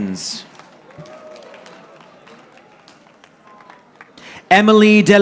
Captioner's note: audience applauding